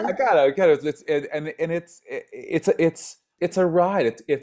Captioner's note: stammers